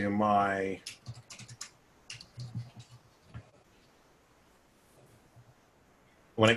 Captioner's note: typing On Screen